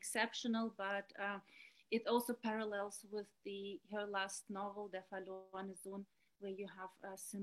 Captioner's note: speaking german